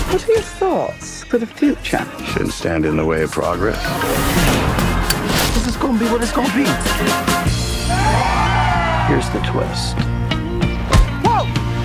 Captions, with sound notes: What are your thoughts for the future? Shouldn't stand in the way of progress. This is going to be what it's going to be. [crowd cheering] Here's the twist. Whoa!